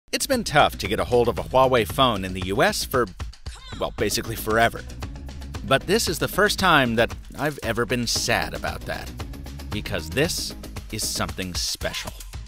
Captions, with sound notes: - [Voiceover] It's been tough to get ahold of a Huawei phone in the US for, well basically forever. But this is the first time that I've ever been sad about that. Because this is something special.